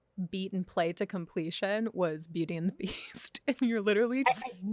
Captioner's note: laughs